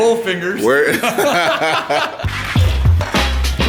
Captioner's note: laugh; hip hop music